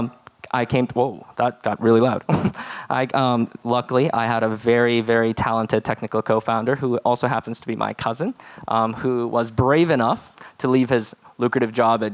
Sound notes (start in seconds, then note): 2.2 laughing